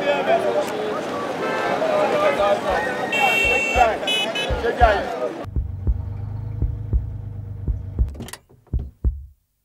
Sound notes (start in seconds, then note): 5.4 heartbeat sound